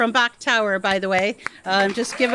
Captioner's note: audience applauds